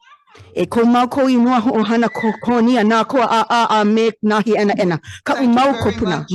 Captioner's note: speaks in foreign language